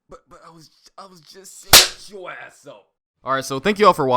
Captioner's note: belt whip